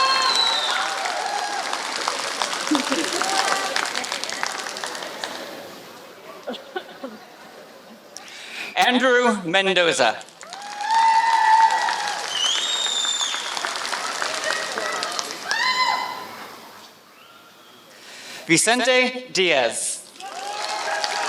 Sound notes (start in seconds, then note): 0.0 applause; 3.2 applause; 10.1 applause